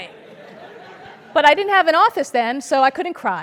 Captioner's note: laugh